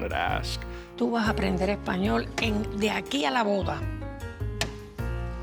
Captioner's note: speaks Spanish